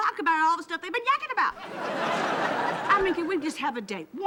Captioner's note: laughing